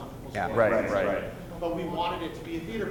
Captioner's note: voiceover